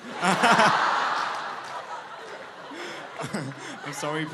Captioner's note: laughter